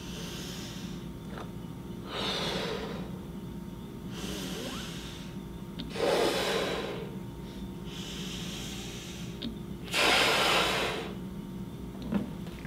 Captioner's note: blows into balloon